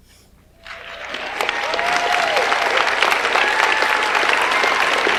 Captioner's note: audience applauds